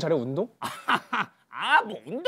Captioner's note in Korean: 코웃음